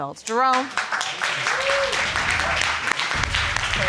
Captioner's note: audience applauds